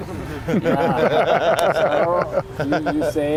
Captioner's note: laughing